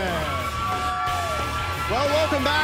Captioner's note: crowd cheering